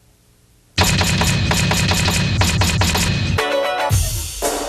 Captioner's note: metal clanking; typewriter clacking; upbeat pop music